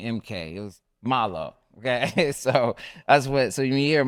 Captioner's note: laughs